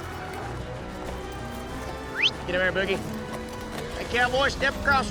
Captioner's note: whistles, prompts cattle